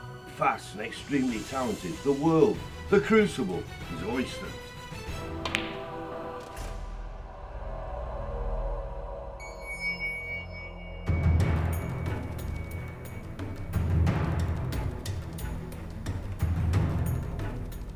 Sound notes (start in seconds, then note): 5.4 pool balls clacking; 11.0 dramatic orchestral music